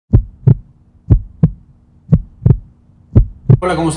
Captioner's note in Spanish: latidos